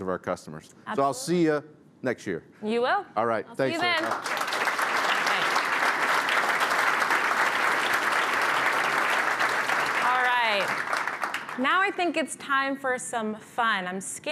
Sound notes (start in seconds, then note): 3.7 applause